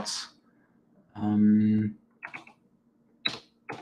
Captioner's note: keyboard clicks